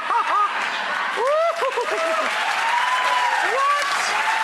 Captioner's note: audience applauding